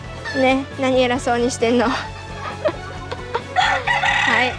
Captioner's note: laughs